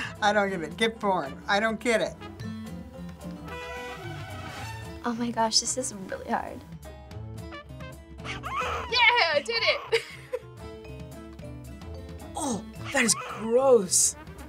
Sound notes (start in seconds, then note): 8.2 baby wailing; 9.9 giggling